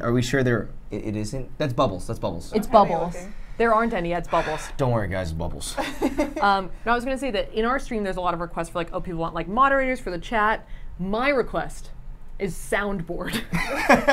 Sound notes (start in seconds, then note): 5.8 laughs; 13.5 chuckles